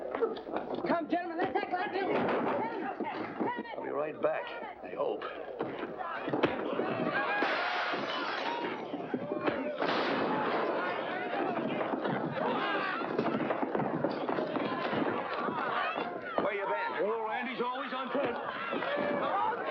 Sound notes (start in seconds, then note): 2.1 crash; 5.2 bartender yelling; 7.3 mirror smashes; 9.4 crash; 11.2 thump; 12.3 yelling & commotion